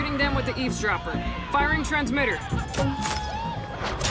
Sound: beeping

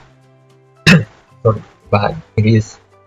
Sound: cough, sorry

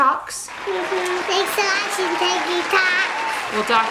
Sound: audience applauding

